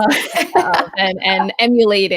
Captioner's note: chuckles